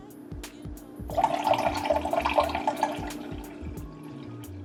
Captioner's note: background music; liquid pouring